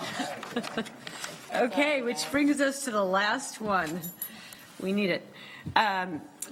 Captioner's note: laughter